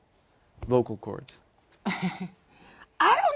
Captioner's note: laugh